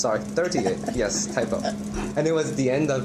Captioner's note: laughter